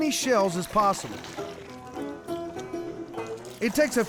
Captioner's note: pouring, splashing